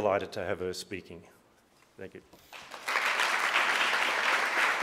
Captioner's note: applause